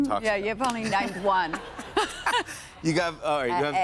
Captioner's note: laughter